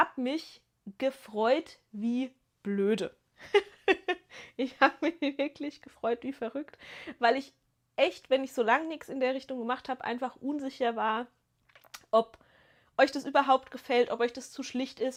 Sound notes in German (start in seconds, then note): 3.4 gelächter